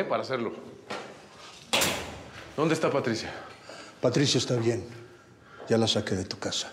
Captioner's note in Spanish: ruidos al cerrar reja